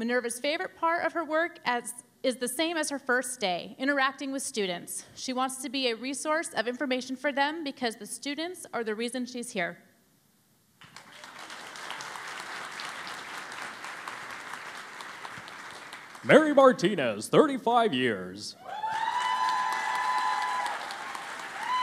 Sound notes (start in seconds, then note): 10.8 applause; 18.6 cheering and Applause